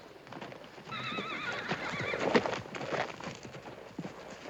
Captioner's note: horses neighing